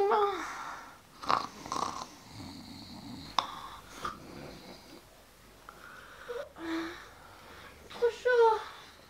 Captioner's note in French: Ronflements